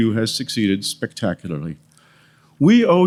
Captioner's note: none